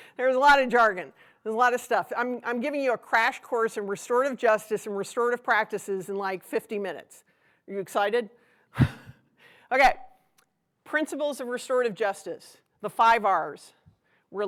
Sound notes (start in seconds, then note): 8.8 chuckles